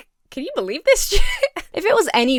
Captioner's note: giggles